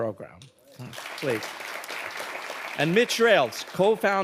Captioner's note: audience applauding